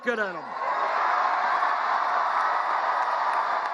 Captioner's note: cheers